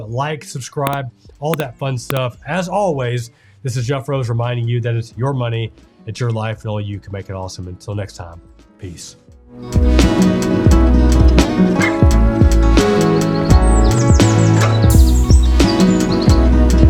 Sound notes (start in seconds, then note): 9.8 birds chirping; 10.1 relaxing music